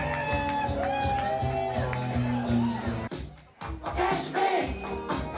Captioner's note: cheers